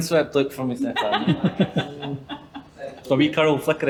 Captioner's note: laughing